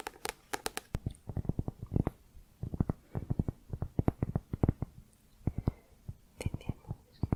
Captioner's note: tapping on cork